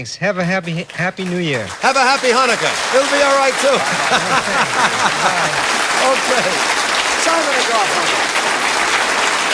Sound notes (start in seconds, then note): 3.0 laughs; 8.5 applause